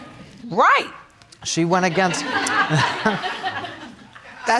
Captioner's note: laughing